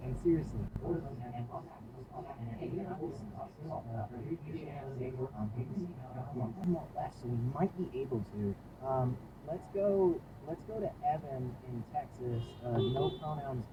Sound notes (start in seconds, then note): 12.3 Scion honks; 12.7 beepbeep